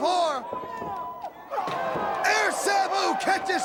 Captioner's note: crowd cheering